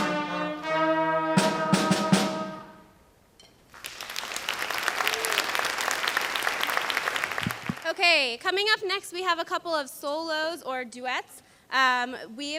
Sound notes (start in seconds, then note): 3.7 audience applauds